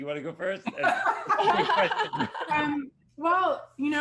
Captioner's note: all laughing